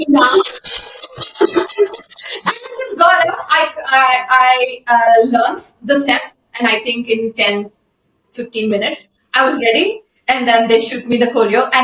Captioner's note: laughter